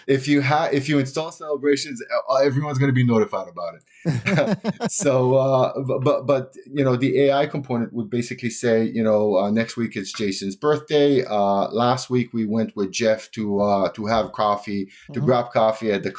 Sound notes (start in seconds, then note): 4.0 laughter